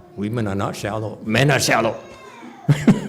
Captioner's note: laughs